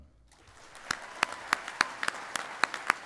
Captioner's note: applause